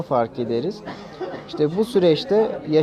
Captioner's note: cough Sound